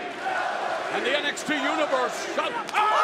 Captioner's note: crowd cheering